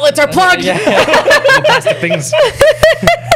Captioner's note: laughter